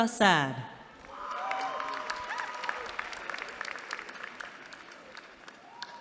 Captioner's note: applause